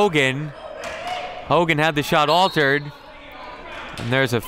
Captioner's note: referee blows whistle